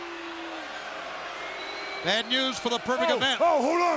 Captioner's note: crowd boos